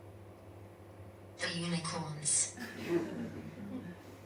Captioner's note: audience laughs